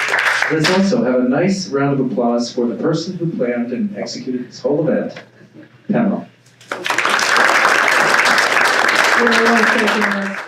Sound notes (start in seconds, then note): 6.6 audience applauding